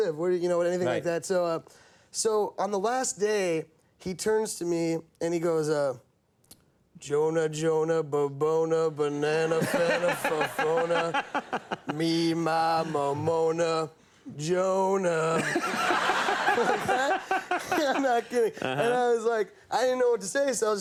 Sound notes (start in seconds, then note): 15.3 audience laughing